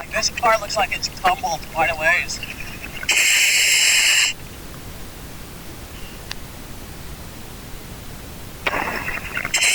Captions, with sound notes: This car looks like it tumbled quite a ways. (oxygen pipe whirling)